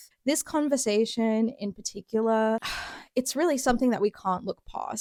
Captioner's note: sigh